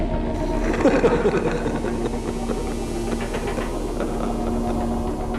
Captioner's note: distant evil laughing